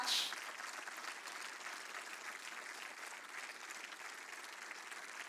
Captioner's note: applause